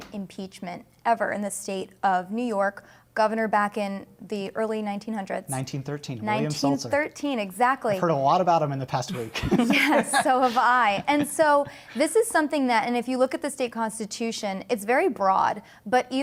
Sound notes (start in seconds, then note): 9.2 laughter